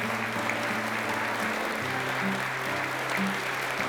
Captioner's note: applause